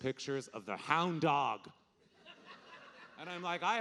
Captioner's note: audience laughing